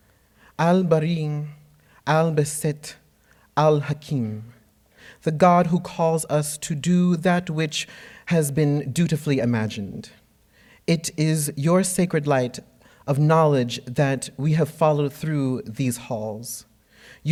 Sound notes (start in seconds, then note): 0.5 speaks in foreign language